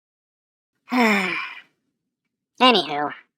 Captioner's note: sigh